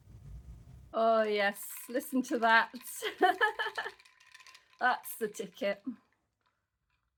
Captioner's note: ice cubs clinking; laughing